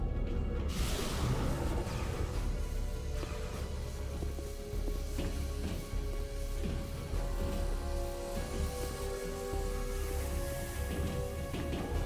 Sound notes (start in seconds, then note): 0.8 explosion; 3.9 tense music